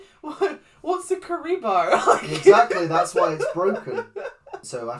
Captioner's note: laughs